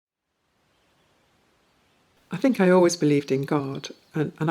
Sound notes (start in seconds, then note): 0.6 birds chirping